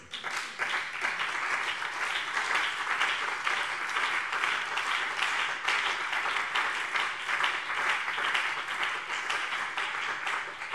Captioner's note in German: Beifall BÜNDNIS 90/DIE GRÜNEN und CDU